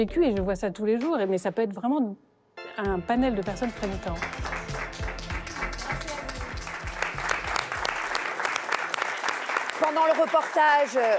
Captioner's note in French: applaudissements